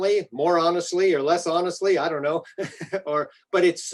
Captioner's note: chuckles